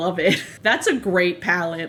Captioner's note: laughs